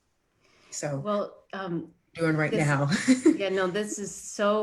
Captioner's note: laughs